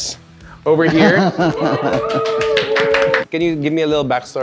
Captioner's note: applauds